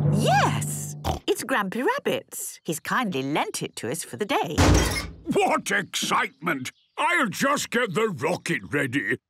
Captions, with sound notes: - Yes, it's Grampy Rabbit's. He's kindly lent it to us for the day. - (metallic door bursting) - What excitement! I'll just get the rocket ready